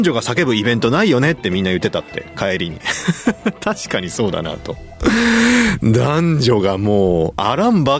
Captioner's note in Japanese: 笑い